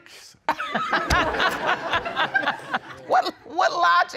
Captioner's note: all laughing